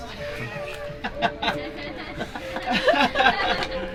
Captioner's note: laughs